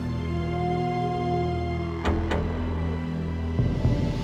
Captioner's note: howling